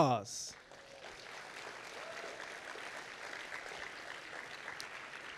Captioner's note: audience applauding